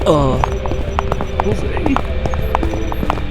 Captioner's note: quietly